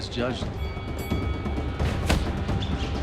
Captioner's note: bell ringing